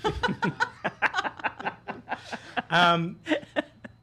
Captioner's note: laughing